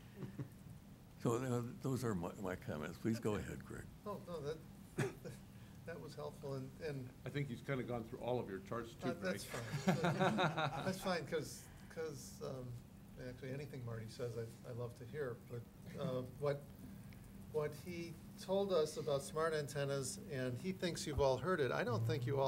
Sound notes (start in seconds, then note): 6.3 chuckling